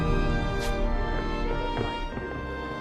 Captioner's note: zips